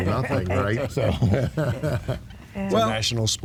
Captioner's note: laughing